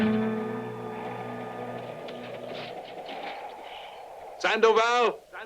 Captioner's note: wind whooshing